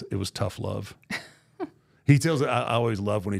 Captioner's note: laughs